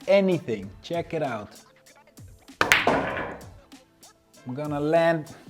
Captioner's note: pool ball hitting